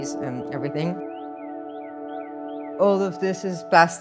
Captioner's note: tranquil music; birds chirping